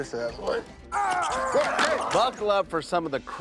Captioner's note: screaming